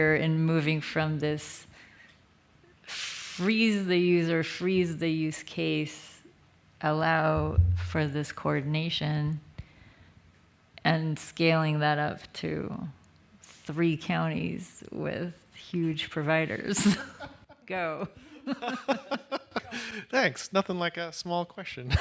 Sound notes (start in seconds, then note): 18.0 laughter